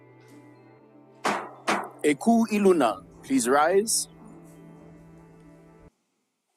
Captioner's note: gavel bangs twice